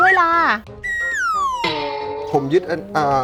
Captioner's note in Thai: เสียงเอฟเฟกต์